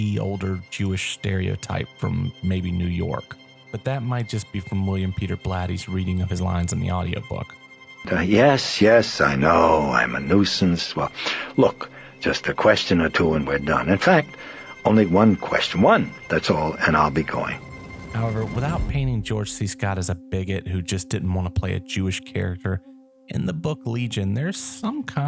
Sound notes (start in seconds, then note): 7.9 in stereotypical Jewish accent